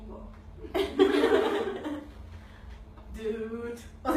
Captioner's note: laughter